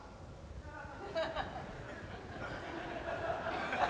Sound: laughter

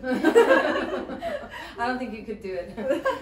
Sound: women laugh

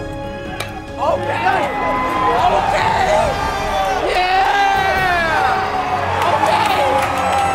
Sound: cheering

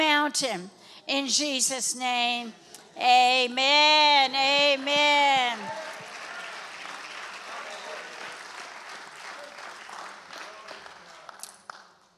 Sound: congregation applauds

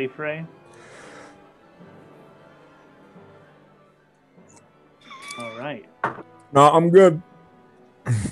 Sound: takes a drink

